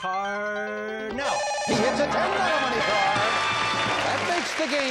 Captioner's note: beep